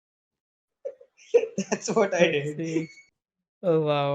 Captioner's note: laughs